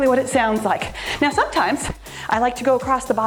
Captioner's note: timer beeps